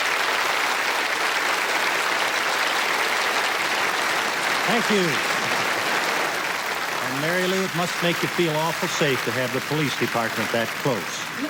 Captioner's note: applause